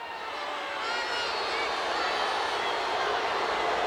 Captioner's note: crowd booing